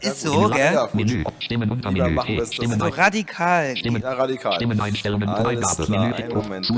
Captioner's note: broken sentences